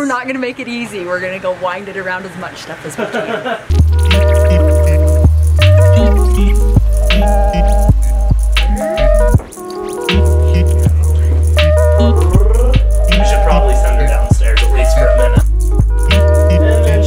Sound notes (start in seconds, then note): 2.9 laughter; 4.0 chill music